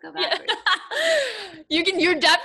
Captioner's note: laughing